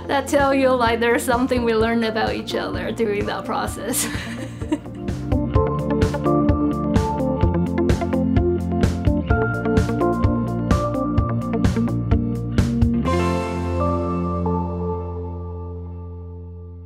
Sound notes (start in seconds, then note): 3.8 laughs again; 5.3 cool electronic music